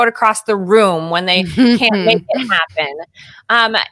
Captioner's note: chuckles